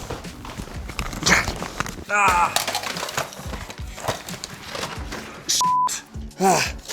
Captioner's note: Chosen breathing heavily; items falling; Chosen grunting